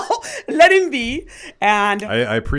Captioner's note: laughs